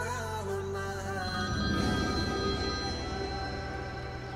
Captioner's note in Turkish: Telefon Çalıyor